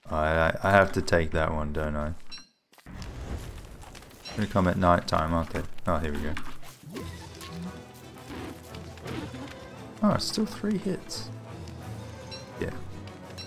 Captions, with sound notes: Alright, I- I have to take that one, don't I. They're gonna come at night time, aren't they. Oh here we go. [dog whimpering twice, dog dying] Oh still three hits? Yeah.